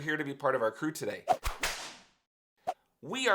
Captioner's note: whip cracking